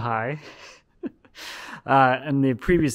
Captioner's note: laughing